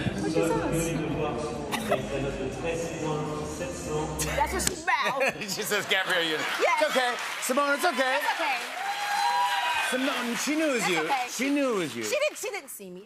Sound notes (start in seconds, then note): 9.1 cheers and applause